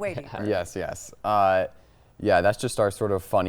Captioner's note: chuckling